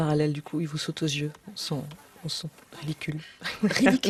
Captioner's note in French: rires